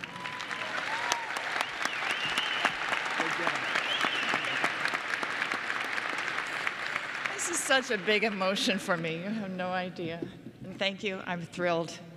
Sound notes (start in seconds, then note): 0.0 applause and Cheering